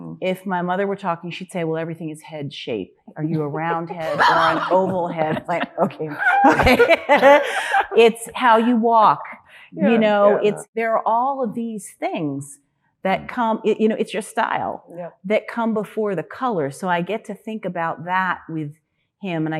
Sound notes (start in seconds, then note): 3.9 panelists laughing; 6.7 laughing